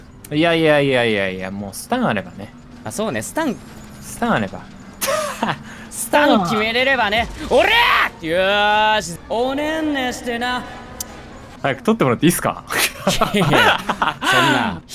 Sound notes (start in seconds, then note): 10.2 kiss; 12.7 laughs